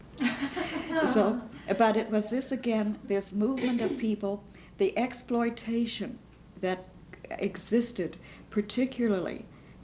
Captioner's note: laughter